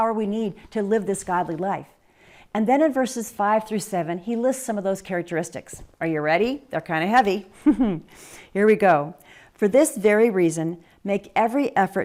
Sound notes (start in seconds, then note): 7.5 chuckle